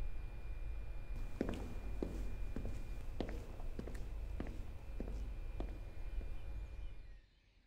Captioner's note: footsteps